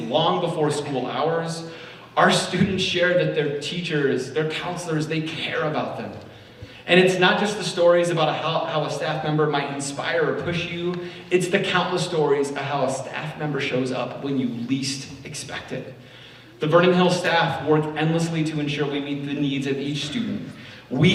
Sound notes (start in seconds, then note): none